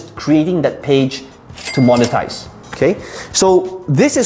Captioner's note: cash register ringing